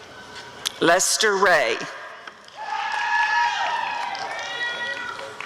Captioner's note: applause and cheering